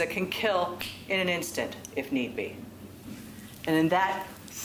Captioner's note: snaps fingers